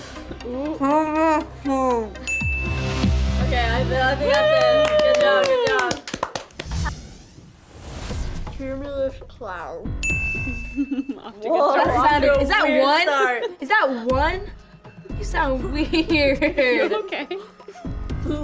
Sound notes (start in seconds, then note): 2.2 bell dings; 10.0 bell dings; 16.3 laughs